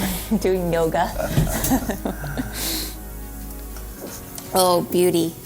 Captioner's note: laughs